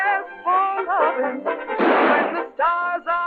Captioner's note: gunshot